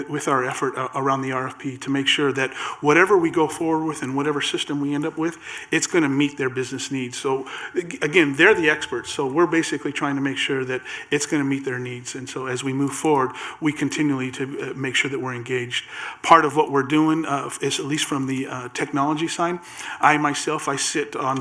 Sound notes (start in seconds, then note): none